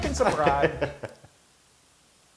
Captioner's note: laugh